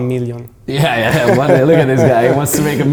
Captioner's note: laughing